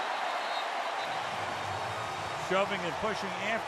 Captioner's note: whistle